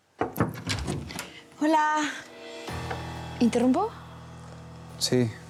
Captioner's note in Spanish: toques en la puerta